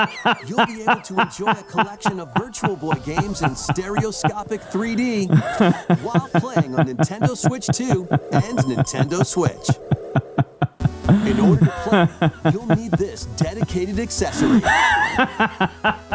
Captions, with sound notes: You'll be able to enjoy a collection of Virtual Boy games in stereoscopic 3D while playing on Nintendo Switch 2 and Nintendo Switch. (laughing) In order to play, you'll need this dedicated accessory. (laughing)